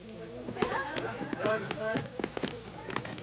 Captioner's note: people panicking